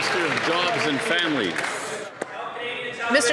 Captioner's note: some Applause